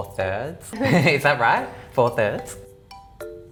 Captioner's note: laughs